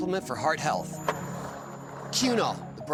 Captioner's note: skateboard wheels roaring